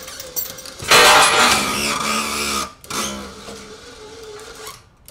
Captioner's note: clanking; squealing; engine whirring